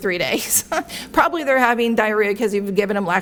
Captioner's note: laughs